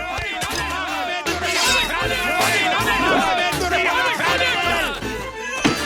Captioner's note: all shouting; grunting